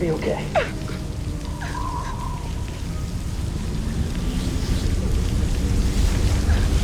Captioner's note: crying